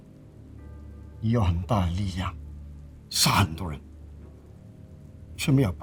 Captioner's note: monk speaking in foreign language